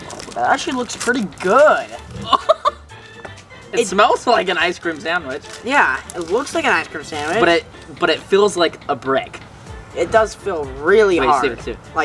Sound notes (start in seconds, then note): 2.0 laughing